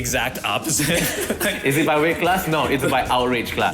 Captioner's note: laughs